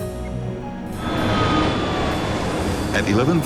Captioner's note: plane engine roars